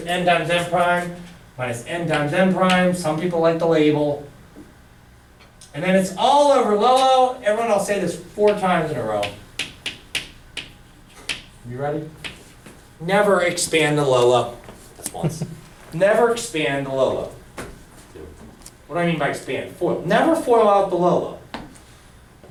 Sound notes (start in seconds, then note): 9.1 chalk clicking on board